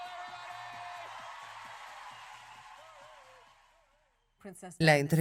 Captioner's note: crowd cheers loudly